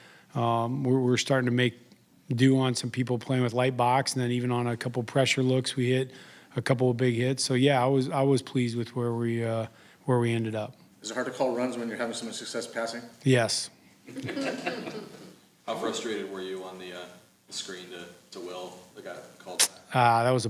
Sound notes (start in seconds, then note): 14.1 laughter